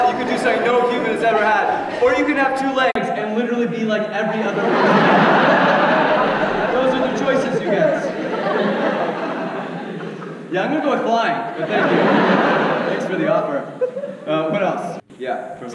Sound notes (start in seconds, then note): 5.3 audience laughs